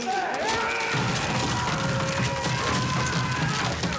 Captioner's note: both scream